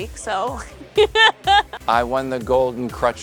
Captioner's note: laughs